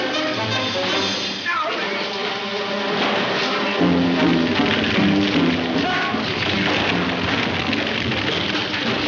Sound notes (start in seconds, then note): 2.1 dramatic music; 5.2 man shouts; 6.0 dramatic music